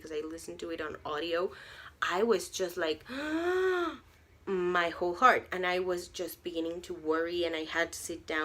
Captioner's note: gasp